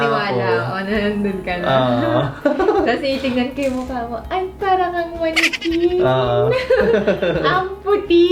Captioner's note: weird laugh